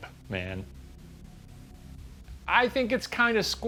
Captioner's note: room ambience